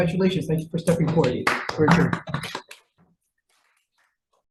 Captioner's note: everyone applauds